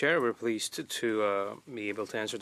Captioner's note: speaking in French